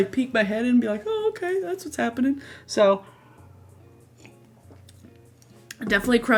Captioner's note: sips water